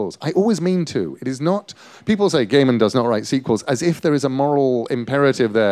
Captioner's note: none